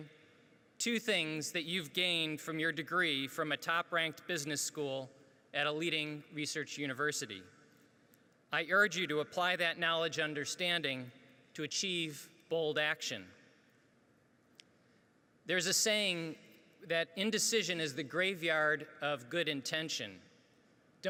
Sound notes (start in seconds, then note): none